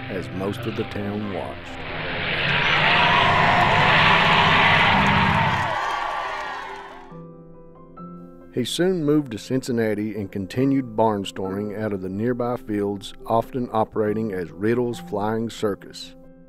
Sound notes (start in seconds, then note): 2.0 cheering